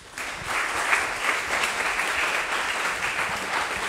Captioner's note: audience applauding